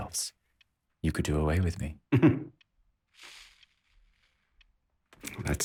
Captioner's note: Josip laughs